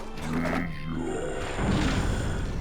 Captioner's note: zombie groaning